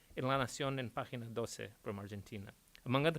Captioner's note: speaks in Spanish